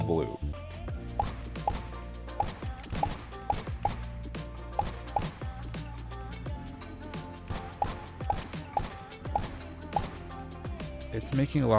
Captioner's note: gunshots